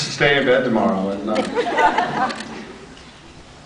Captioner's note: scattered laughs